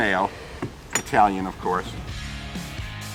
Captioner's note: metal clinks; upbeat music